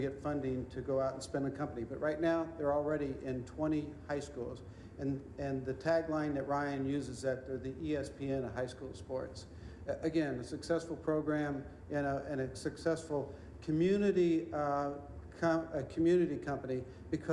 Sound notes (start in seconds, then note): none